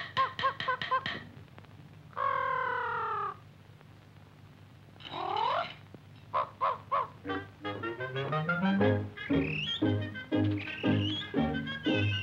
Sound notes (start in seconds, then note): 5.2 bird twitters; 10.5 bird whistles